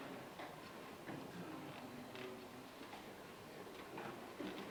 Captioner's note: audience chatting quietly